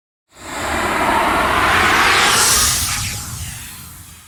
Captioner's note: air whooshing